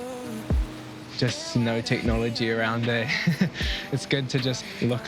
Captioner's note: laughs